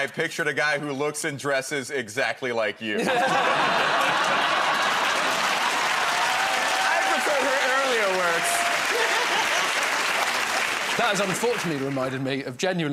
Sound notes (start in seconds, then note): 2.9 laughter; 5.7 cheers and applause; 9.0 cheers and applause